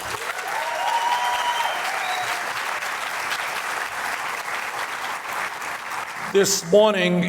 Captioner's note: applause and cheers